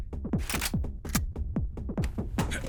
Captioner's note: gun clicks